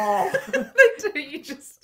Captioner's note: laughing